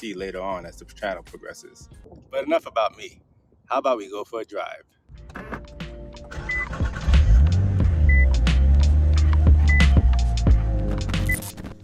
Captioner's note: engine Start